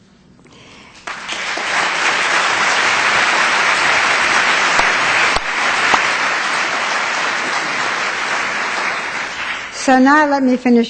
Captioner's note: applause